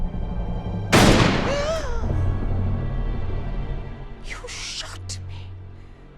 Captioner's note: gasps